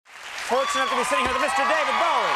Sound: crowd cheers

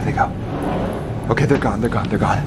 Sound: door scraping

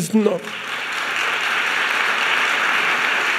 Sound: applause

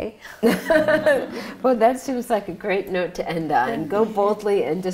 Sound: laughs

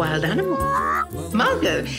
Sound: bird sound

